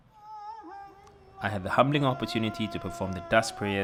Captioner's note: voiceover